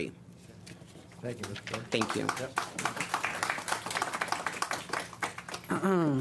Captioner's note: clapping